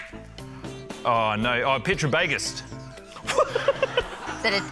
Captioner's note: laughs